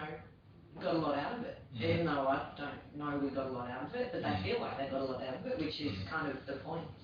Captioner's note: audio distorts